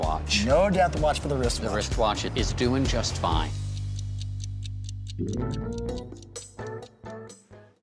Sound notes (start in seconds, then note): 3.9 watch ticking; 4.9 groovy jazz music